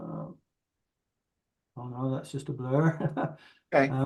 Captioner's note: laughs